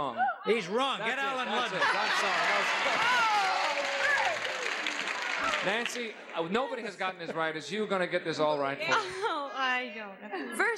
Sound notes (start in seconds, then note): 1.3 audience cheers